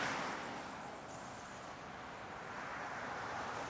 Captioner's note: traffic noise